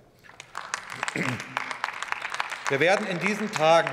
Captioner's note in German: Beifall bei der LINKEN sowie bei Abgeordneten der SPD